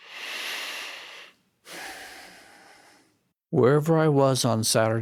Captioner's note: exhales loudly; inhales loudly